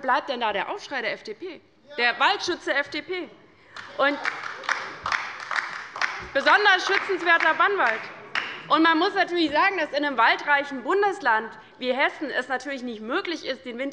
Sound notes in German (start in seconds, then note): 3.7 Beifall bei der LINKEN